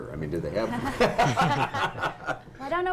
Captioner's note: laughter